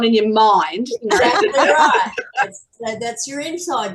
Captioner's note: everyone is laughing